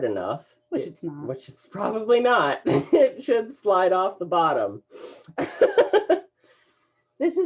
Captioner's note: laughter